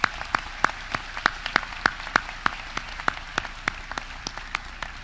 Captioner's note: audience clapping